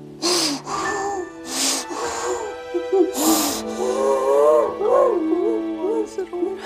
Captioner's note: he quietly sheds tears of sorrow and regret